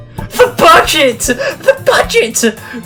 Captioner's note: inhale